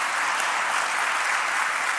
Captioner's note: applause